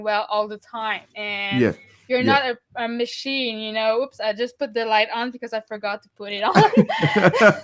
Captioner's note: laughing